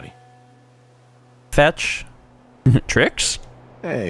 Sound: chuckle

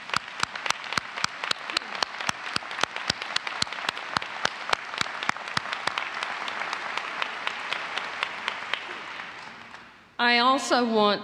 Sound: applause

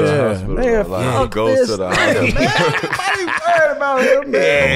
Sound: laughs

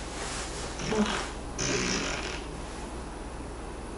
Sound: fart

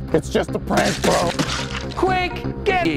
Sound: multiple stabbing effects

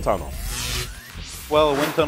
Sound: sound Effects

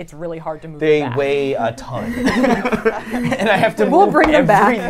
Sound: laughs

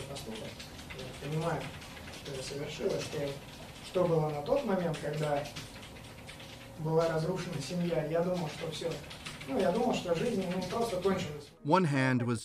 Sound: speaking russian

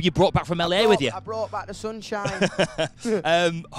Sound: laughs

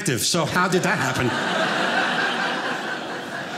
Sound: audience laughing

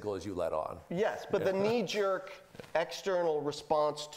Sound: laughing

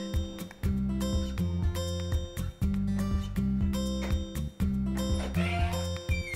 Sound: door opening

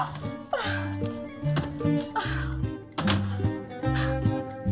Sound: breathes exhausted

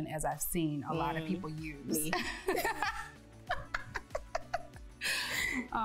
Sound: both laughing

